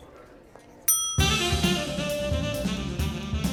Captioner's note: bell dings; upbeat jazzy music